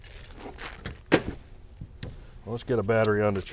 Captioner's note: belt clip tinkling